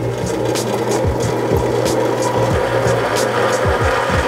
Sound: drill whirs

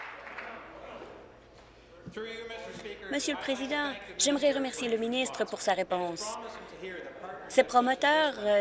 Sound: applause

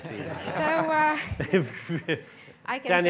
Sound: panelists laughing

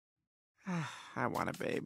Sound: sighs

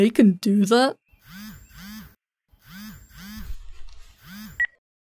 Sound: phone ringing

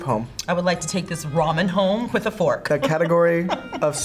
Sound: laughs

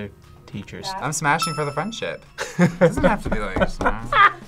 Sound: laughs

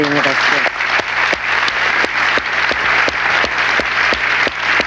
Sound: audience applauds

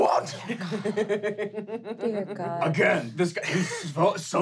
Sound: laughing

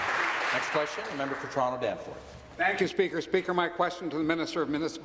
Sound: applause

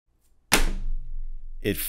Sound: box lands on table

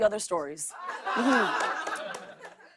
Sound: laughter

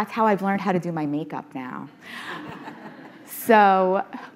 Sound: audience laughing

